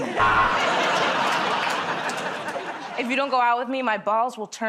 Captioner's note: buzzer